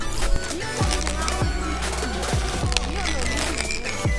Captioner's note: kids chatter